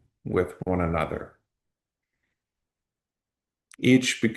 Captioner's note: pause